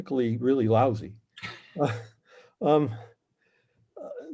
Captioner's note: laughing